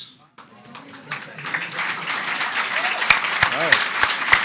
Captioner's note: audience applauds